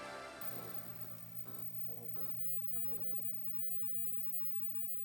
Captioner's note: lights buzzing